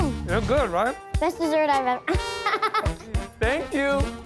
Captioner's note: laughs